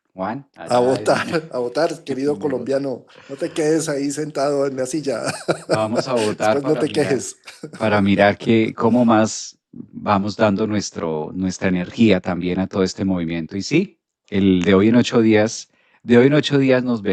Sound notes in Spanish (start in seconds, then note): 5.0 risas